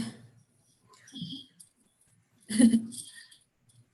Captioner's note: laughs